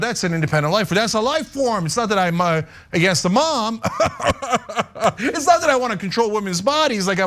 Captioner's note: laugh